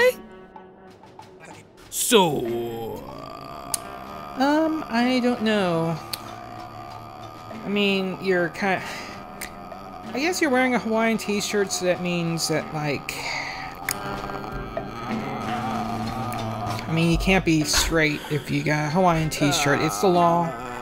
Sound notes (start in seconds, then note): 6.3 still going uhhhhhh; 8.8 sighs; 9.2 still going uhhhhhh; 13.6 still going uhhhhhh; 18.0 gasps for breath; 18.8 deep breath; 20.5 still going uhhhhhh